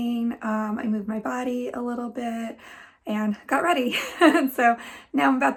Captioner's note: laughs